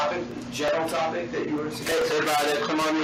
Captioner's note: indistinct chatter